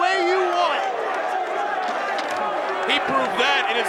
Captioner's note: crowd chattering